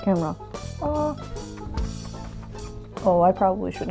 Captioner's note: smooching